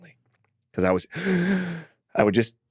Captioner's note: inhales deeply